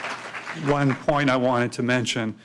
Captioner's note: applause